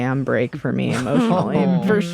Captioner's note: laughter